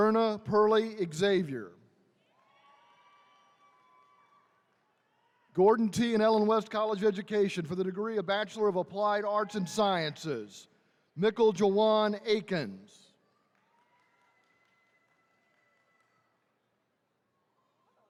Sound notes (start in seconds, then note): 2.3 attendees cheering